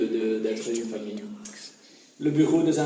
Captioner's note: whispering